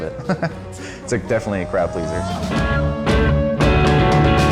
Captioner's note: laughs